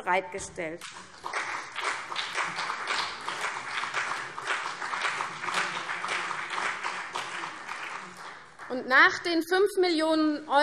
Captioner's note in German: Beifall CDU und BÜNDNIS 90/DIE GRÜNEN